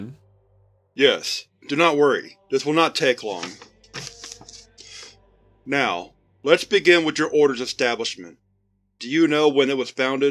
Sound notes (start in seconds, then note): 3.3 shuffling paper